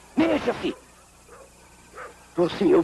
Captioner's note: dog barking